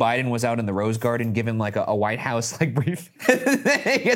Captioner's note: laughs